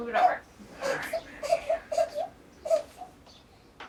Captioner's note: baby's whining increases